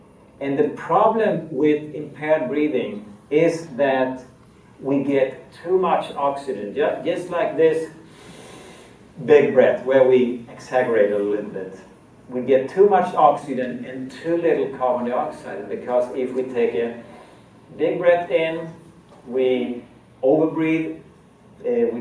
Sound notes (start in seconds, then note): 8.0 breathing